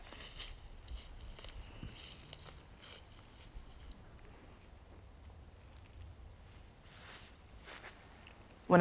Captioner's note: footsteps